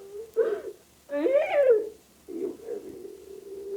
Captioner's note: cries